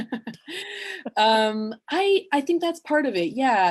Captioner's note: laughter